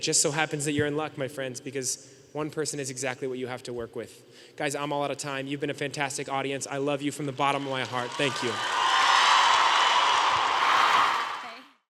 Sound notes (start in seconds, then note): 7.6 audience cheering